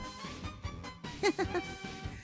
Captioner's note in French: rires